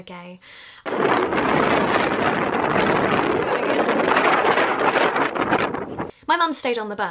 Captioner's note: extremely loud wind noises